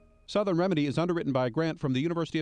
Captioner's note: voiceover